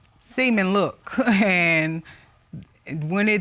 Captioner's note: chuckles